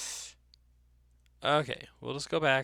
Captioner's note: breaths in